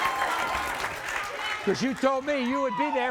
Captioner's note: audience applauds